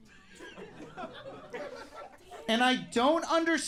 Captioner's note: audience laughs